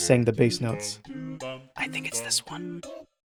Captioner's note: whispering